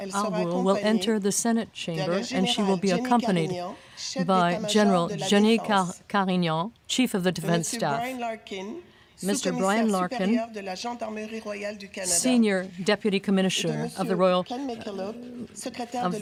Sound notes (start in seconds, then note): 2.3 speaking French